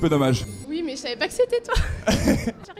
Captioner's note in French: rires